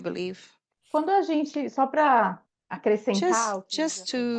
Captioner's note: speaking in Portuguese